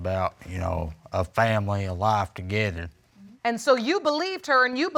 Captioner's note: none